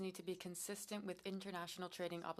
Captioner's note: speaking French